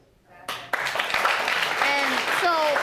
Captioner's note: audience applauding